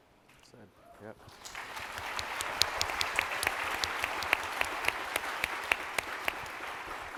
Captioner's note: appluase